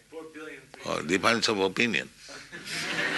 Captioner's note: laughter